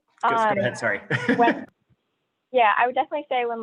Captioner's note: laughs